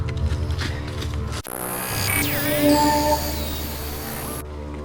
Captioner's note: static crackling